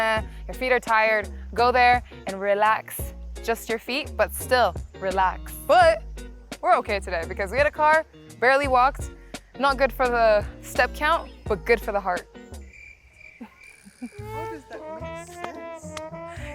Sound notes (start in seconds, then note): 12.2 crickets chirping